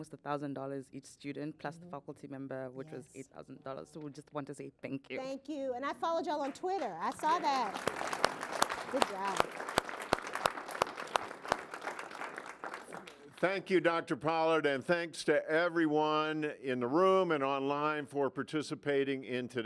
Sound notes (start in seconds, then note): 10.2 applause